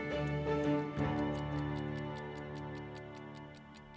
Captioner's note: timer clicks